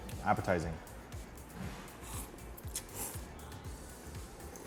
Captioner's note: slurping